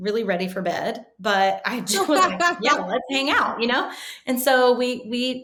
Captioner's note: laughing